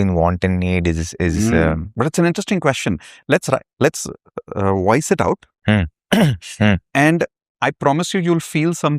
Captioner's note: clears throat